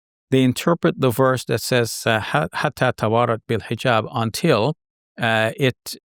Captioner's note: speaking in foreign language